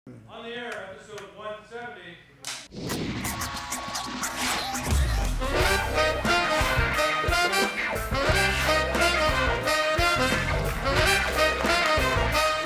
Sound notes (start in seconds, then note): 1.5 clapperboard clacks; 2.5 up tempo music; 10.9 claps; 11.1 audience applauds